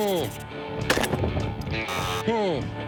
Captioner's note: gun shots; buzzer